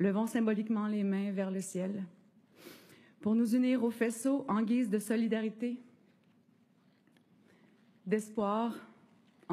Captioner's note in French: voix de l'interprète